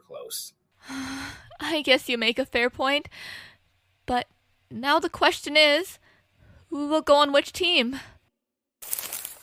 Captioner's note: sighs